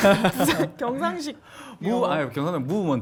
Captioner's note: gyeongsang-do style English